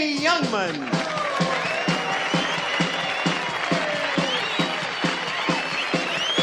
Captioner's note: audience cheers